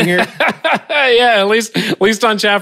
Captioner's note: laughing